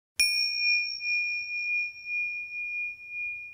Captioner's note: dinging